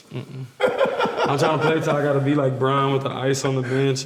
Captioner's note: laughs loudly